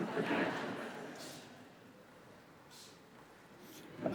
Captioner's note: audience laughing